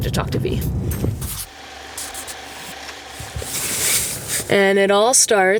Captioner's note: camera reel whirring